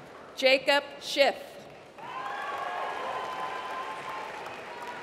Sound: applause

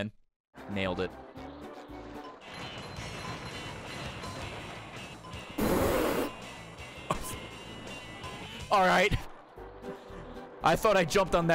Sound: laughs

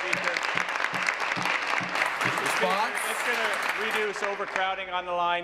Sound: applause

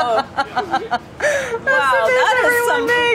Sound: laughs

